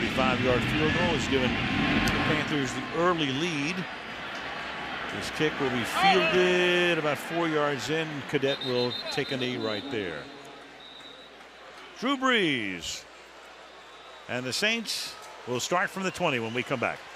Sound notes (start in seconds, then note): 10.8 whistle blows